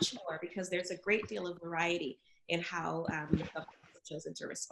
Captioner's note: audio glitches